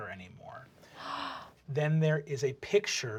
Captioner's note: gasps